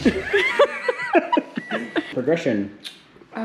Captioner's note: laughing